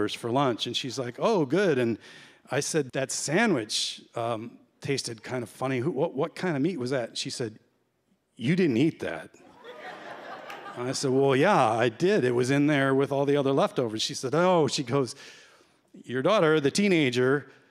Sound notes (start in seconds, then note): 9.4 laughter